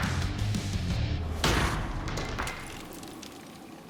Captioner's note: shattering